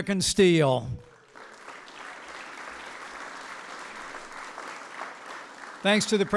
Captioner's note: applause